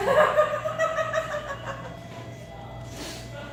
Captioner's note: laughing